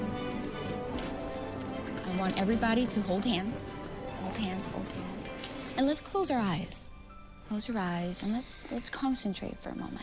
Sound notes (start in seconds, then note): none